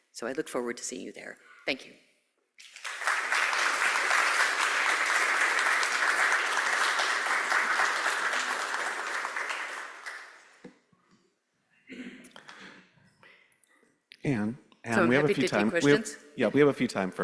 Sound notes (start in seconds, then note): 2.6 audience applauding